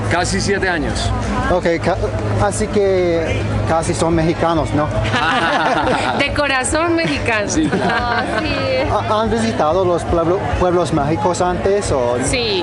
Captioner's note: laughter